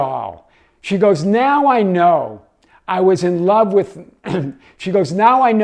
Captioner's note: clears throat